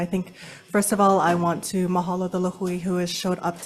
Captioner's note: speaks in foreign language